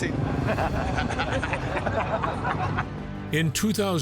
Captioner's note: group laughing